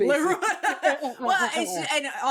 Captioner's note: laughing